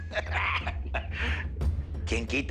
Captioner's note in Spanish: Risas